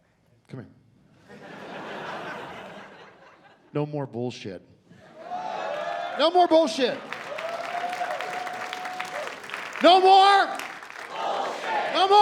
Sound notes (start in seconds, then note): 5.2 scattered cheering; 7.2 cheering and applause